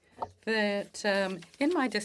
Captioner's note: speaking French